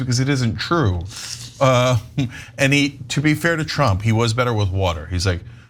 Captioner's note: laugh